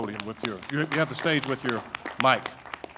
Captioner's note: audience applauding